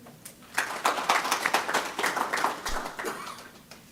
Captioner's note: applause